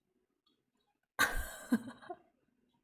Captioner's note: laughs